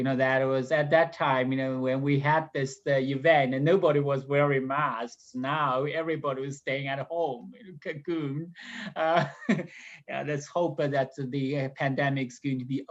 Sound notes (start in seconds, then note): 9.0 laughs